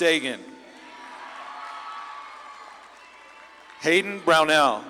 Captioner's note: audience claps and cheers